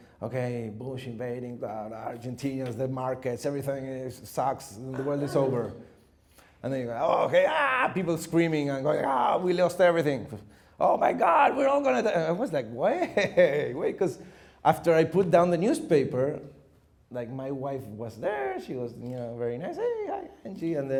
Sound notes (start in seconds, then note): 4.9 laughing; 7.7 growling scream